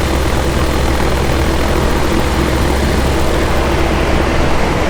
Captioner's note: microlight engine roaring